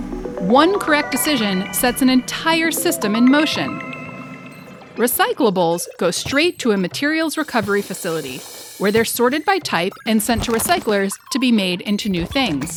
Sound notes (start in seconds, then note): 5.1 industrial noises